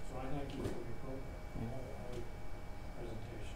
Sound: none

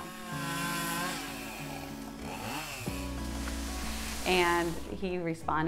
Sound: power saw roaring

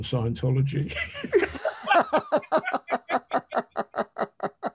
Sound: men laughing

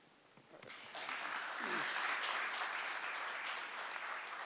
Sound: audience applause

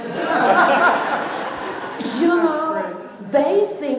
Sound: laughter

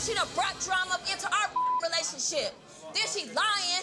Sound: beep

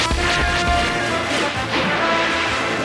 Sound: splashing; zapping

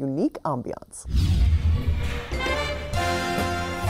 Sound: air whooshing; upbeat jazz music

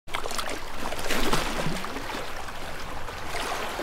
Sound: water waves splashing

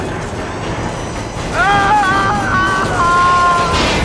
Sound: screaming Continues

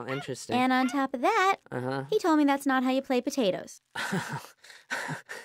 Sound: chuckles

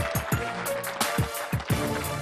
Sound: applause

